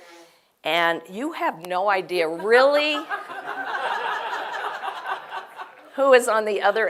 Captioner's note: laugh